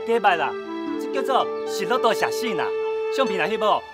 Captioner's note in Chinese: 日語